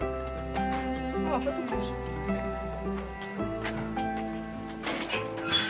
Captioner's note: speaking in Korean